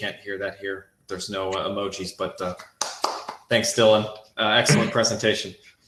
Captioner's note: clapping